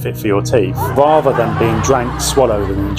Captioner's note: crowd laughing